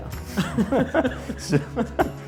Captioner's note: laughing